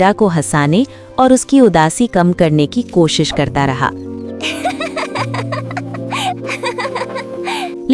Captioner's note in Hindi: हंसी